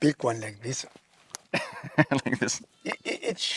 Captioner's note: laughing